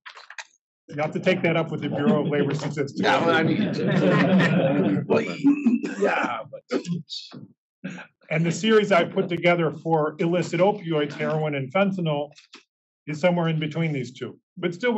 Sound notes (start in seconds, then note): 5.6 laugh